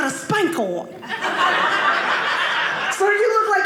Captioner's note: audience laughing